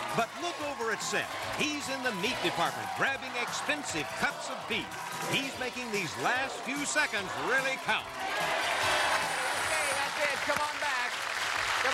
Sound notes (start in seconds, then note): 8.7 bell rings; 8.7 cheers and applause